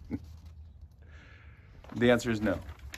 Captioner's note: chuckles